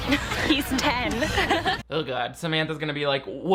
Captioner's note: group laughing